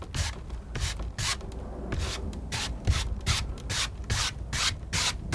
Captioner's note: scratching